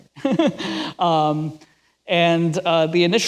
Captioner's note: laughs